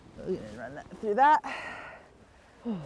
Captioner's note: exhales